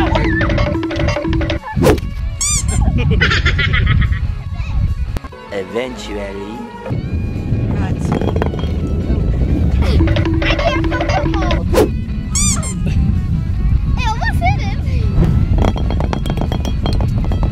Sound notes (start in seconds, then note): 0.0 timer counting down; 2.4 squeak; 2.8 laughing; 9.9 timer counting down; 12.4 squeak